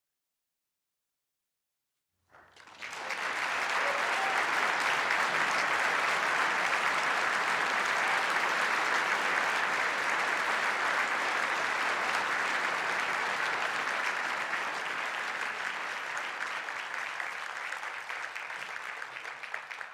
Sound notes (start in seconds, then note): 3.4 audience applause